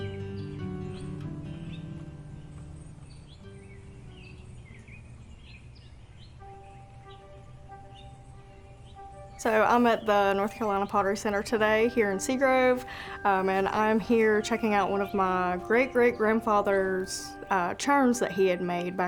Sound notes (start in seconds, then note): 1.5 birds chirp